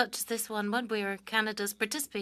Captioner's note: speaking French